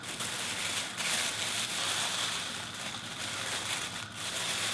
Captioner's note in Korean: 비닐봉지 부스럭거리는 소리